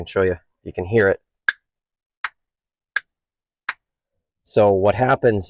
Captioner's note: lid snapping